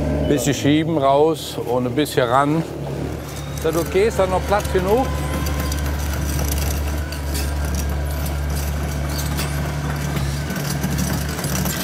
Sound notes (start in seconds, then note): 6.4 rattling, roaring